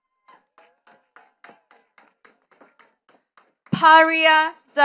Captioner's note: attendees clapping